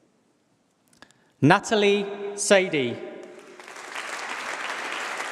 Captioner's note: applause